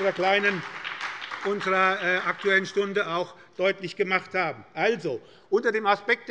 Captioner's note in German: Beifall bei der SPD